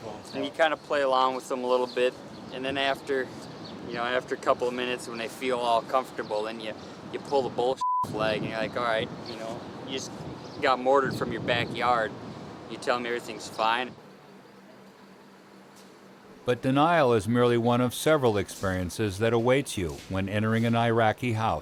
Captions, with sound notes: And you kind of play along with them a little bit. And then, after a couple of minutes, when they feel all comfortable then you pull the bull... Flag, and you're like, alright I just got mortared from your back yard. You tell me everything's fine? - [Voiceover] But denial is merely one of several experiences that awaits you when entering an Iraqi house.